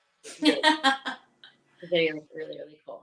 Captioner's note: laughing